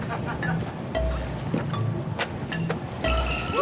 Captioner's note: cheers